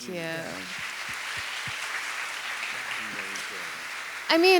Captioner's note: audience applauding